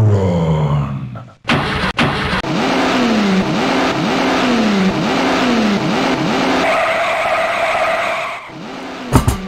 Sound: samples from a roaring engine, and tires screeching after taking off

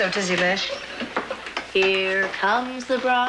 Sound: sing-song

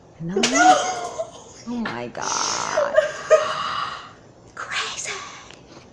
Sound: speaks gibberish; gasps

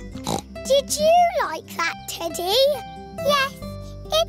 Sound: snorts

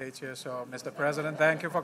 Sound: laughter

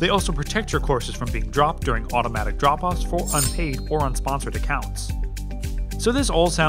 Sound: metal on metal sound

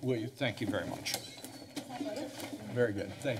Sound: door opening

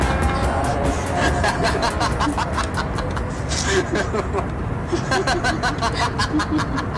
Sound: laugh

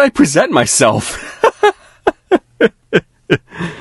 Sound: laughing

